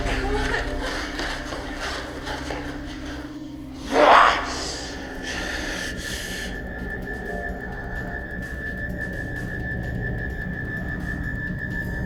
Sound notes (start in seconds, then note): 3.8 David growling; 7.0 tense buzzing